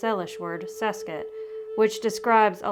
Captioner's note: speaks word in foreign language